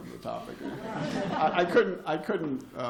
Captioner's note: laughter